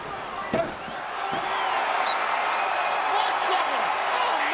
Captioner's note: audience cheering